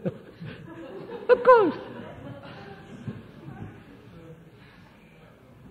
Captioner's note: laughs